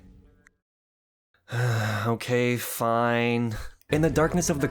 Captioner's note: sigh